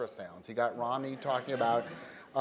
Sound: laughter

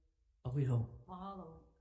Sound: speaks Ōlelo Hawai'i

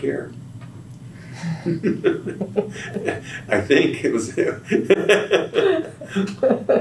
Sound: laughs

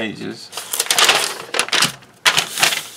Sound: paper rustling

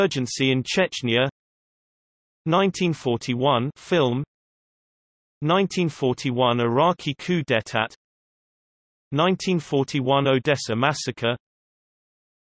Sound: Scottish

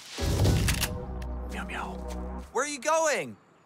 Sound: whispers meows

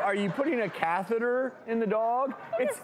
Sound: audience laughs

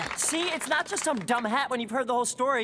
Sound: clapping

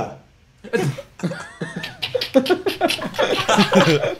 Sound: students laughs

